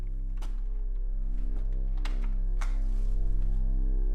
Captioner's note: ominous suspenseful music; clicking